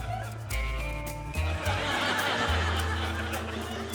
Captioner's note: laughter